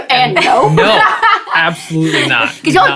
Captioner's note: laugh